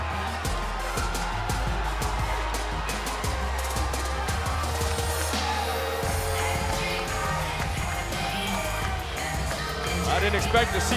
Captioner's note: crowd cheering